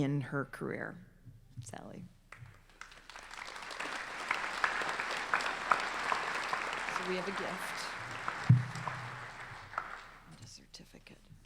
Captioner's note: applause